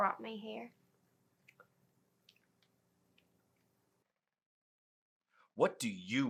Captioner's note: gum smacking sound